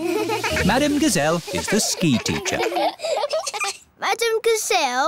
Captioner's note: laughing